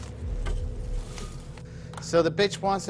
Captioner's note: blinds clattering